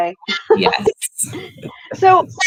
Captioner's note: laughs